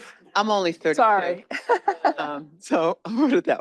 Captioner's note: laughs